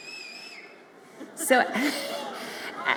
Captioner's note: audience member whistles